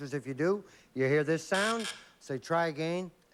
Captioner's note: buzz buzz